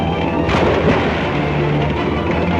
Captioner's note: water splashing